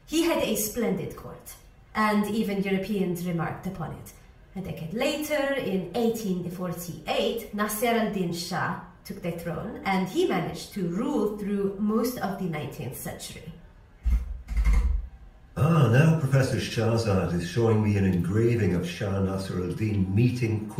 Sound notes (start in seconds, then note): 14.0 tapping on laptop keyboard